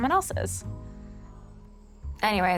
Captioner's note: breaths deeply